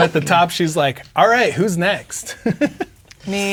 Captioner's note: laughs